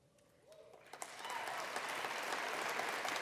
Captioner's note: applause